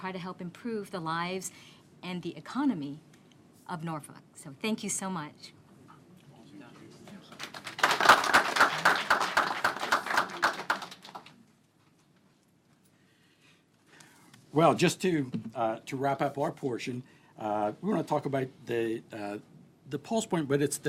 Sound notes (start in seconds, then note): 7.2 applause